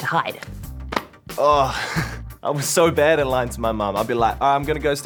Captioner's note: groans